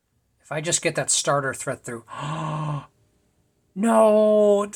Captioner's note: gasp